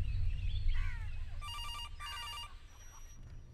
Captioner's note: Phone ringing